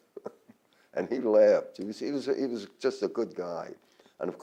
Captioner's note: laughs